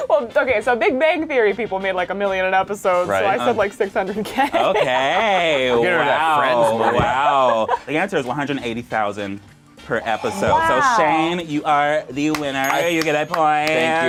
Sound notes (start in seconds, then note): 6.2 overlapping chattering